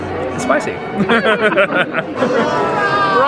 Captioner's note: laughs